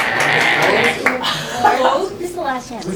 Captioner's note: talking